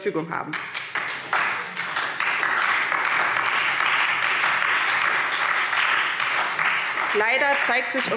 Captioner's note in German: Beifall SPD und Freie Demokraten